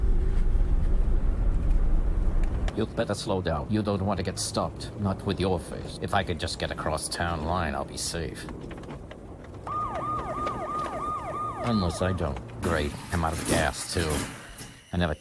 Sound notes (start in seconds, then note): 9.6 sirens blaring